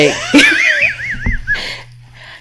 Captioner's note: laughing